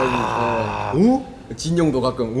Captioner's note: wooooow